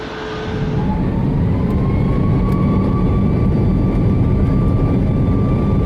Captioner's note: aeroplane engines accelerate